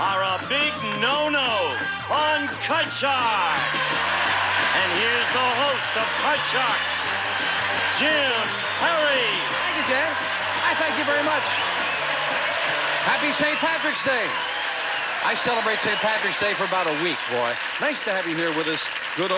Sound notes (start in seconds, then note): 2.2 audience applauding